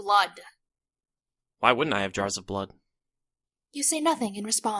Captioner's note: matter of factly